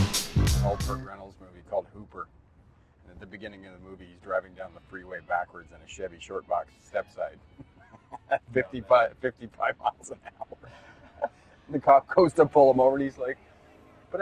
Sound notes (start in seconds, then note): 7.5 chuckles; 9.8 both chuckle